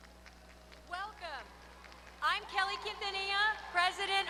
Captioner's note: applause